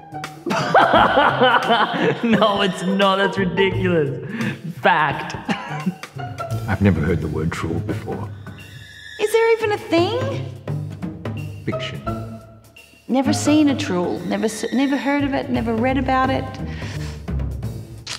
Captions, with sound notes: [Laughing] No it's not, that's ridiculous! Fact. I've never heard the word truel before. Is there even a thing? Fiction. Never seen a truel. Never heard of it, never read about it